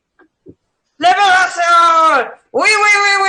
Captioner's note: shouting